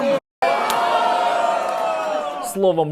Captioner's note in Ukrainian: вигуки в залі